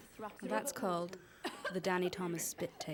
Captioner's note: coughing; coughs